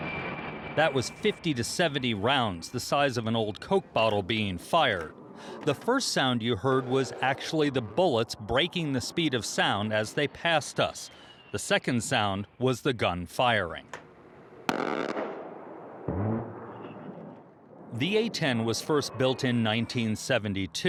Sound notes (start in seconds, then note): 14.6 gun firing